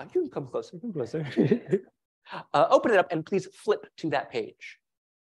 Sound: laugh

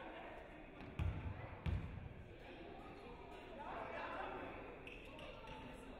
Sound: fans and players chattering

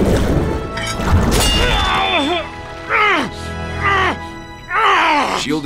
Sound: groans

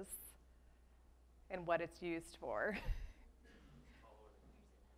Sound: laughs

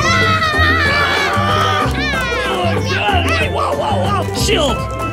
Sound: tropical music; yells

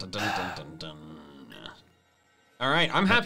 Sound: exhales sharply

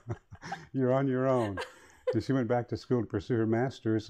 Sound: laughs

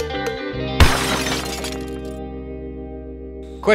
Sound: plucky string music; crashing noise

